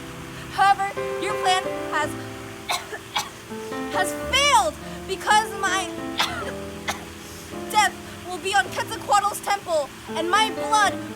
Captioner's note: cough